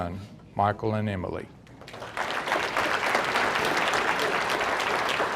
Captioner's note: audience applauding